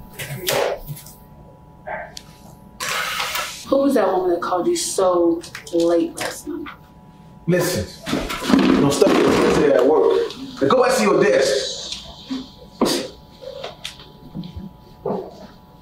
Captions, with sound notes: (laptop slamming) Who was that woman that called you so late last night? - Listen. (chair crashing) There's stuff you can't say at work. Now go back to your desk.